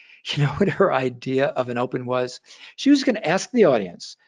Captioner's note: laughing